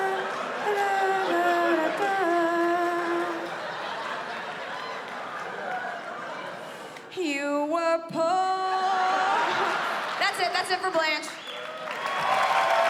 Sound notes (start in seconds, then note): 8.5 chuckles; 12.6 cheers and applause